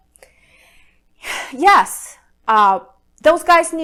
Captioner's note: sighs